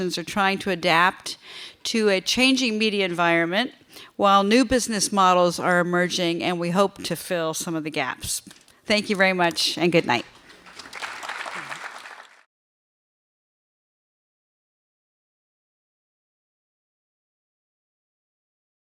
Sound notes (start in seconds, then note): 10.2 audience applauding